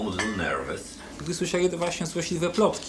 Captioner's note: speaking Polish